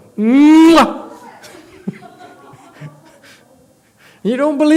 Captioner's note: laughs